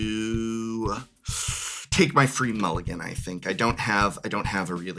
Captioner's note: sharp inhale